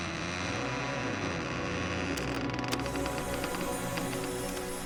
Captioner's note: mechanical noises